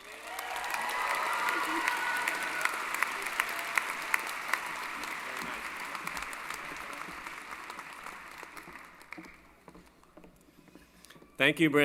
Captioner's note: applause